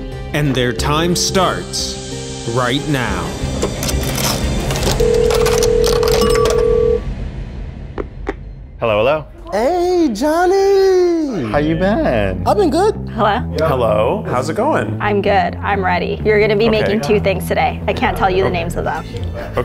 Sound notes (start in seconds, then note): 3.3 dramatic music; 4.8 phones beeping; 6.3 coins clinking